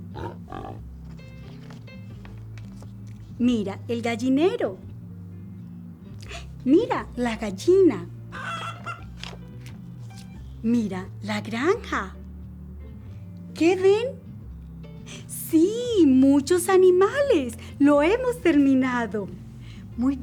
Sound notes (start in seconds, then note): 0.0 pig grunts; 8.3 chicken squawks